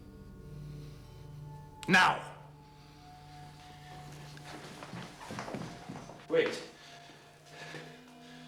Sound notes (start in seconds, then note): 1.6 shouting